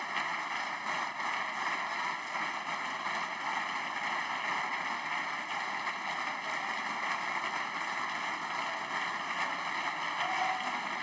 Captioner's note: applause